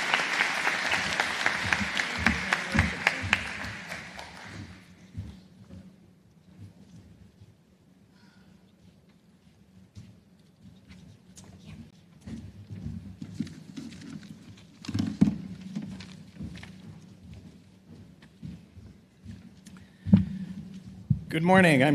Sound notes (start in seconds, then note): 4.6 applause